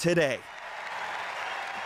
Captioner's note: cheers and Applause